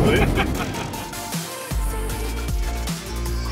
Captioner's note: laughs; upbeat music